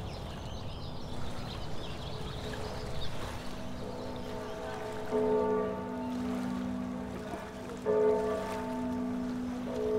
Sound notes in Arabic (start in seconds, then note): 3.6 جرس الكنيسة